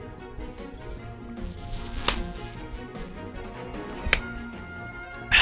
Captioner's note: slurp of a thirsty man